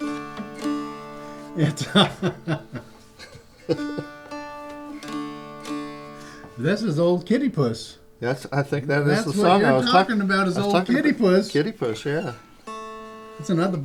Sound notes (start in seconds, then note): 0.1 dulcimer tuning; 1.6 laughter; 5.4 dulcimer tuning